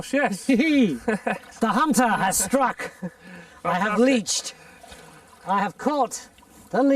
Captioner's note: laughs